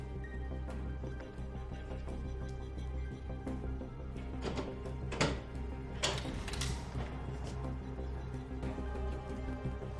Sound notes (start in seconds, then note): 3.3 door handle rattling